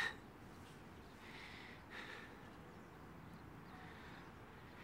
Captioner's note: breathing heavily